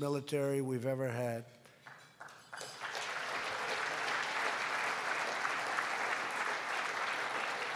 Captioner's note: applause